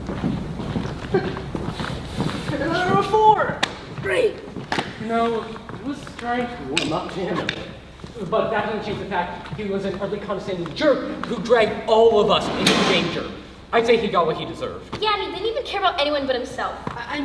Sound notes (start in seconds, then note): 12.3 door closes